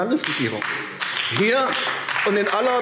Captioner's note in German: Beifall AfD